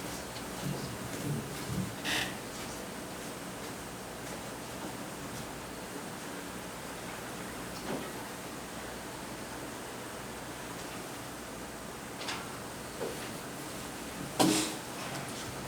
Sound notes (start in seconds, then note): none